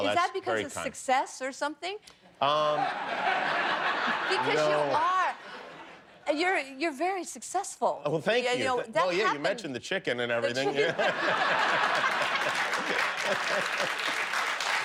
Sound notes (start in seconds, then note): 0.3 laughter; 8.6 laughter